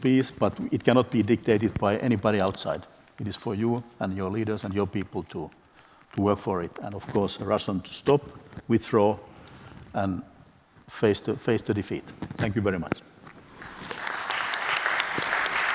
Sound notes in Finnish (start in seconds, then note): 13.6 Applause